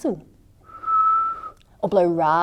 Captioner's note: whistling sound can be heard